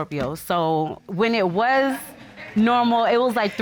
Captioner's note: audience chuckling